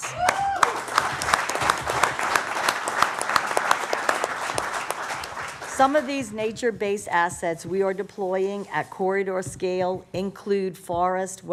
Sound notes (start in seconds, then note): 0.0 applause